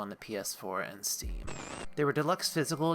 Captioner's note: static